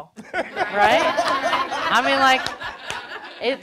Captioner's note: audience laughing